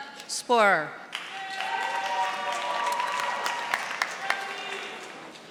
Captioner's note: audience applauding